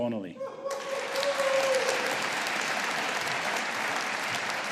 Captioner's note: audience applauding